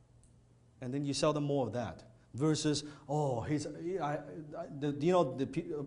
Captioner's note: stammers